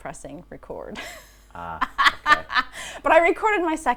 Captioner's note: laughing